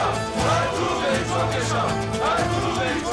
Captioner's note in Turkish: Hep bir ağızdan